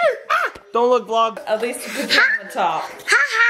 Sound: little girl screams

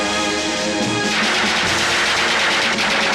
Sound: gunfire

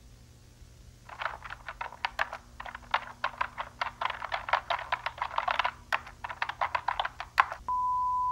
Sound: typing

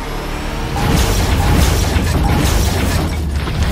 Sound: car crashing

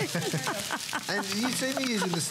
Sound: laughter

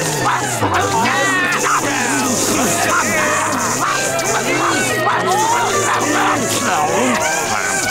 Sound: customers moaning

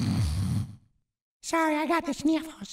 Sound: Mr. Hankey snorting

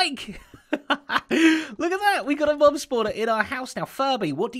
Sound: chuckles

